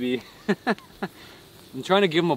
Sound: laughs

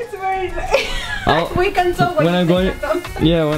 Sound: laughs

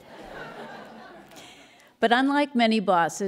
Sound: laughter

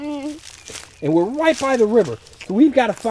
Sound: voiceover

